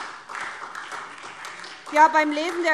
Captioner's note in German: Beifall SPD